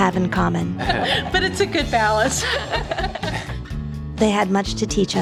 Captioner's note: laughing